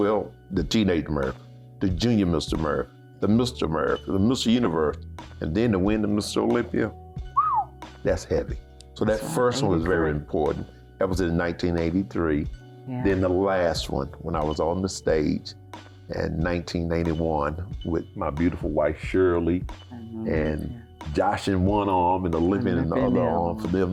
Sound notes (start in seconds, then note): 7.3 whistles